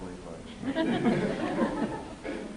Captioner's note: laughter